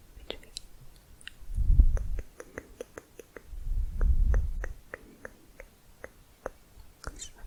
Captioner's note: tongue clicking